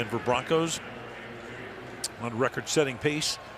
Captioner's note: pa announcement; pa announcement